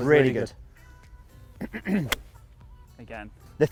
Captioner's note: golf ball hits